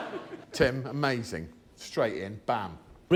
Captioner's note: laughter